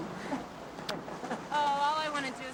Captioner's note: girls giggling